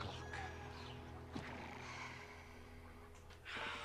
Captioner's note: sighs